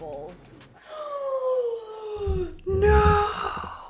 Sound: gasping

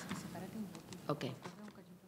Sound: speaking in a foreign language

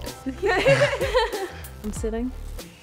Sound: girls laughing

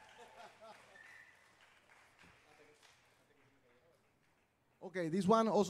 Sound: audience cheering; laughing

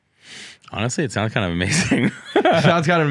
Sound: laughs

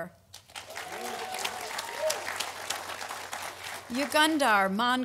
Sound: audience applauding

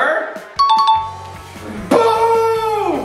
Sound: dinging

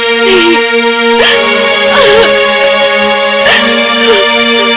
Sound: crying

